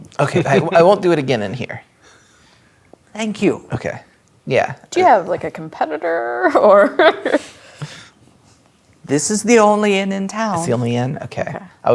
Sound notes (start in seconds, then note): 6.3 laughing